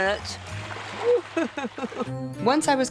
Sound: laughter

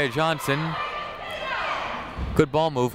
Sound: people shouting in the crowd

